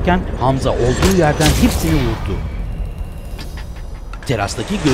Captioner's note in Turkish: Silah sesleri